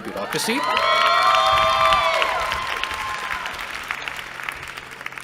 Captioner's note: cheering